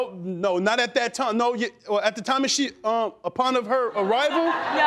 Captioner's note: stammering; crowd laughing